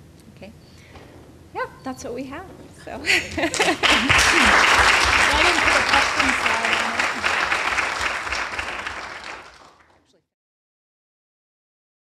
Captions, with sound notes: That's what we have. [APPLAUSE]